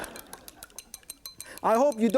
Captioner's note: audience laughs; chopsticks clicking